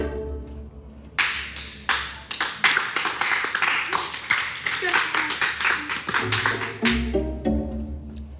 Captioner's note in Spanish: Aplausos